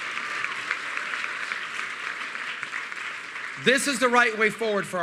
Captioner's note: applause